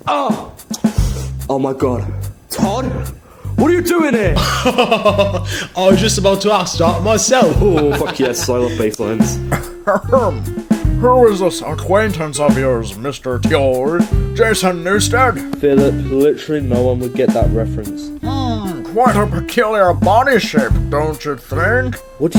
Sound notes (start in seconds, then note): 0.9 inhale